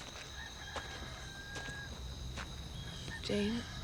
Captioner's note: birds chirping; rooster crowing in distance